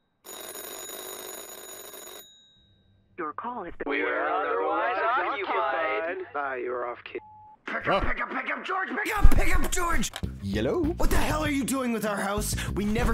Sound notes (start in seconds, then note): 0.2 phone ringing; 7.1 phone beeps; 7.8 shouting